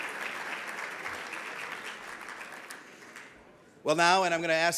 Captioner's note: audience applauds